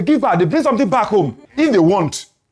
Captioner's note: laughs